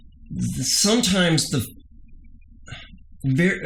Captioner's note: hums